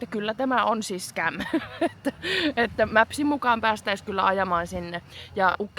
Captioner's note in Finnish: naurua